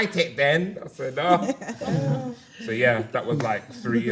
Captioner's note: gasps